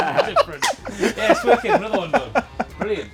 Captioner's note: laugh